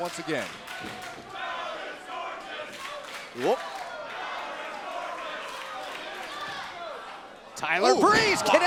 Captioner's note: crowd cheering